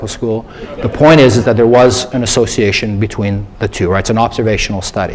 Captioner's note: laughter